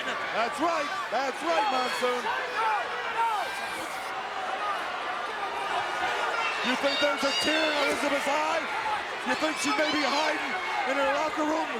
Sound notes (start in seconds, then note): 2.2 crowd yelling